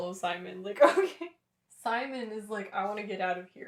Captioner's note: laughter